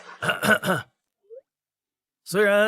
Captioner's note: cough cough